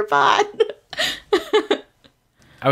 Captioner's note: laughs